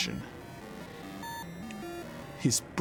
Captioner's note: computer beeping and whirring